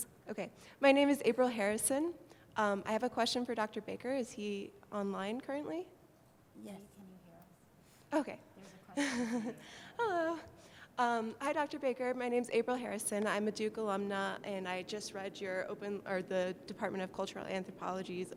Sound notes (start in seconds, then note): 0.4 voiceover; 8.9 laughs